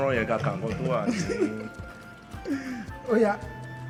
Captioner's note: laughs